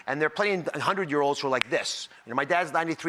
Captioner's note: snaps fingers